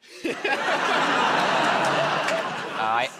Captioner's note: laughter